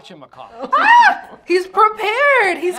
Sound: laughs

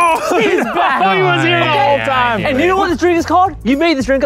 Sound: laughing

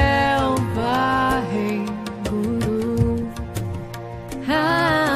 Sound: chanting in foreign language

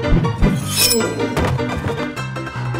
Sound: slice!

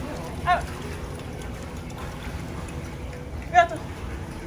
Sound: gentle water splashing noise

